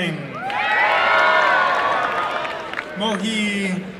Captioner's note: applause and cheering